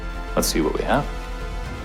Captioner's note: voiceover